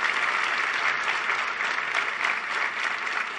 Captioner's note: applause